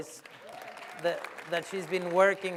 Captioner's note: applause